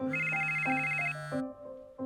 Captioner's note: phone ringing; upbeat piano music plays